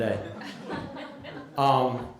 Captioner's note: laughter